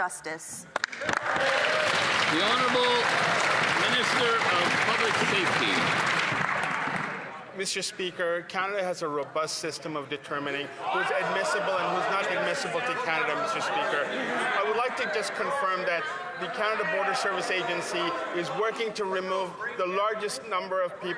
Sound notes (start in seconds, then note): 6.8 some Applause